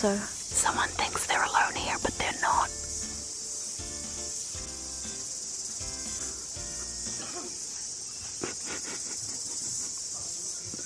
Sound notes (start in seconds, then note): 8.2 giggling